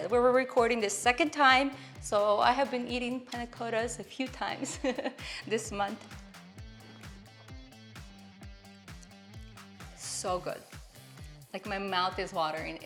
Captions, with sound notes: we are recording the second time so I have been eating panna cottas a few times. (giggling) This month. (soft music) So good, like my mouth is watering.